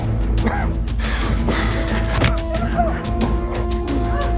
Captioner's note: dramatic music; David coughing